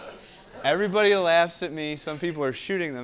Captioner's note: laugh